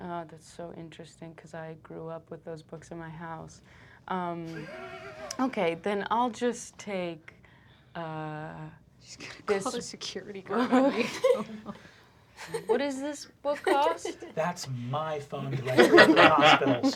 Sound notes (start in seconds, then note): 4.4 laughter; 10.6 laughs